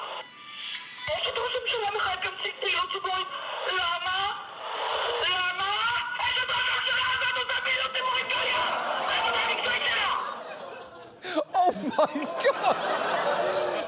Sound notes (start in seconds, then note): 8.1 audience exclaiming; 11.3 laughing; 12.7 audience laughs